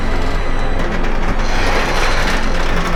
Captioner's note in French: grincement de métal